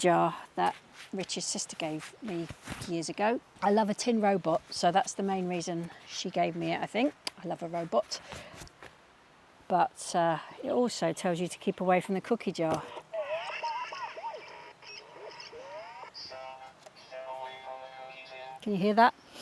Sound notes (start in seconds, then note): 12.6 squeaking